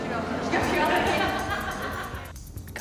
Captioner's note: laughter